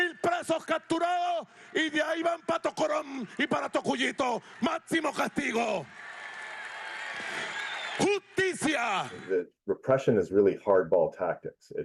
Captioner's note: speaking alternate language